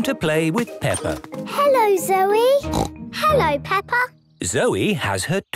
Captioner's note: snort